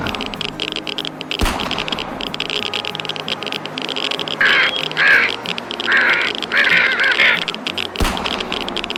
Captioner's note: growling and grunting of mutant boars, cawing of crows , gun shooting